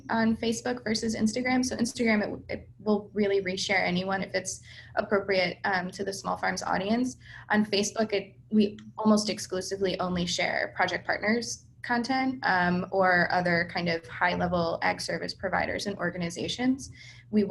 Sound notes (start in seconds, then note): none